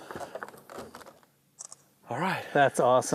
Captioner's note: camera shutter clicks